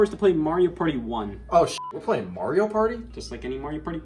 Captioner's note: beep